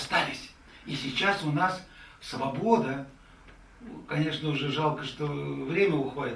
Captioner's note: speaks in the Russian language